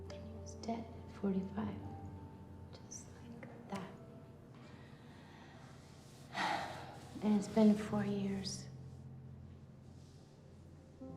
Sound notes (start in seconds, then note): 3.9 fingers snapping; 6.3 sighs